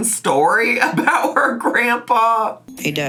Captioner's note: laughs